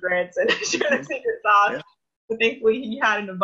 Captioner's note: laughs